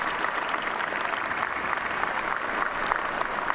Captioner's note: applause